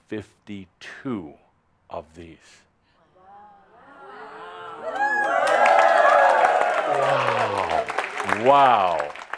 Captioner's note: audience says “Wow” and some applause